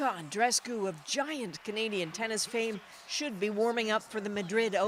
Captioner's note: cheers and Applause